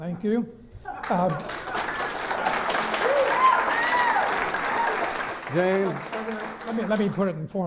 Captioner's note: clapping